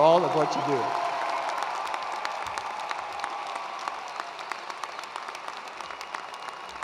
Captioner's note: attendees cheering and applauding